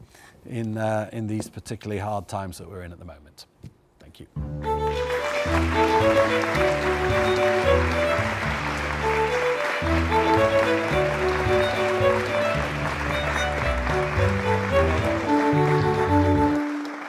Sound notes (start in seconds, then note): 4.9 audience applauds; 4.9 classical violin music